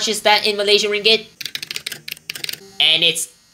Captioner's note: mech keyboard intensifies